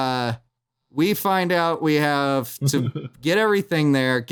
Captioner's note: chuckles